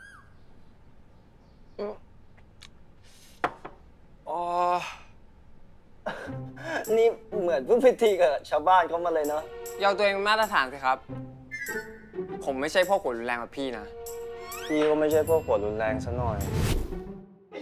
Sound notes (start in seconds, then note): 6.0 chuckle